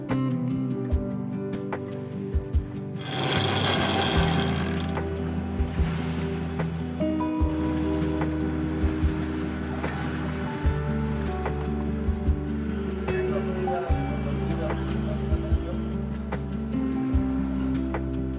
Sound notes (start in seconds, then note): 3.0 sound from vinching